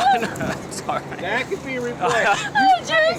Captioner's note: laughing